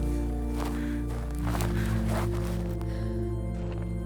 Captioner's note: Quinn panting; dramatic music